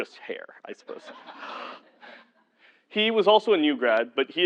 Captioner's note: laugh